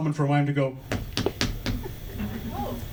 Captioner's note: foot taps to simulate knocking